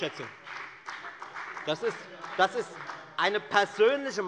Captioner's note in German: Beifall bei der FDP